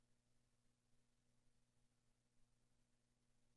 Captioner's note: none